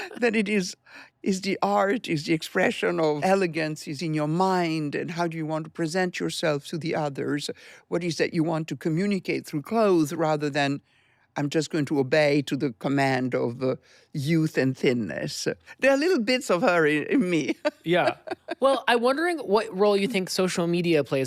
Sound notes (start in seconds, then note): 17.4 laughs